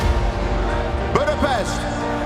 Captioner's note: crowd cheering